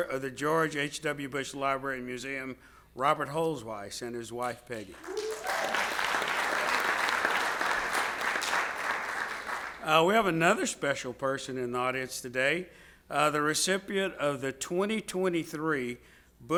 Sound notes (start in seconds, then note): 4.8 audience applauds